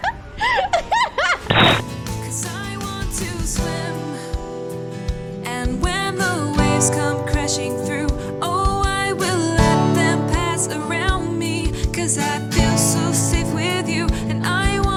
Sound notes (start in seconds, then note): 0.0 laughing